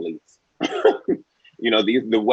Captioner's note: Nicco Annan laugh